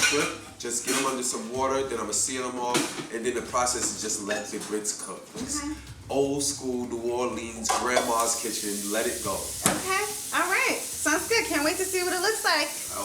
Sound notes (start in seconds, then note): 7.5 pans clanging; 10.4 water running